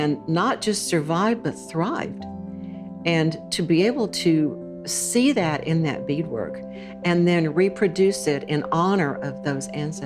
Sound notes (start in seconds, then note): none